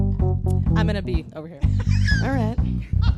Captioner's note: laughs